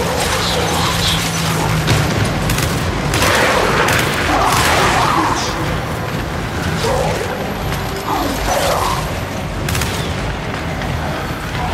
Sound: growling

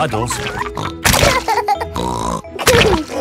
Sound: laughs and snorts

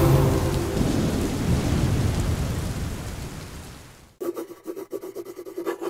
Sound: electrical Noises

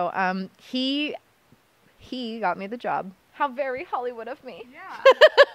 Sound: laughter

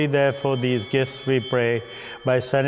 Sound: chimes ringing

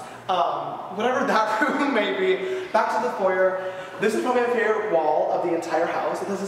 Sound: laughs

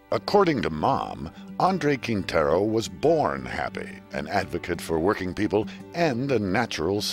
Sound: voiceover

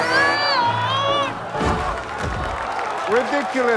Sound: applause

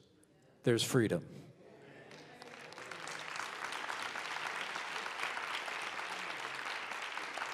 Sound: applause

